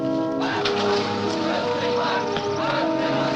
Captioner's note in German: engine starts